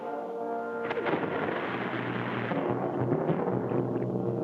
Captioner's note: water splashes; dramatic music